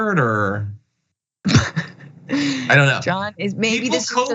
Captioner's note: laugh